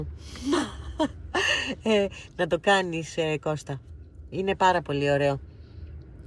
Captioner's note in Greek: γέλια